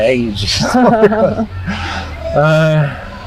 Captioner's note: laughing